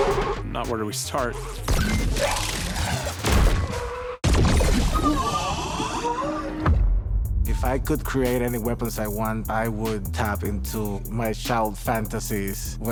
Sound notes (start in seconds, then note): 3.8 tires screeching; 4.8 muffled screams